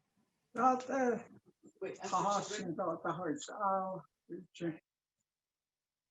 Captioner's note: speaking in Native language